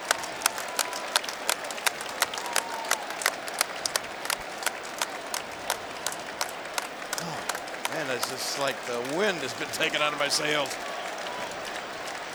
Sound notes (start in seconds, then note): 1.3 crowd cheering and applauding